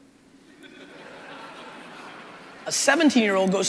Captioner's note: crowd laughing